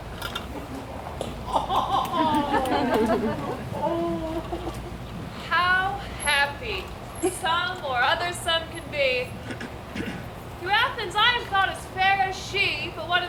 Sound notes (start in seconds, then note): 1.6 audience laughs